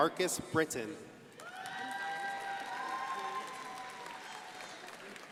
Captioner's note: crowd applauding